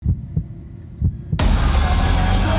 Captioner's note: Scott yelps; dramatic menacing music